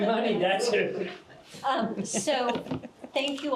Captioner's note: chuckles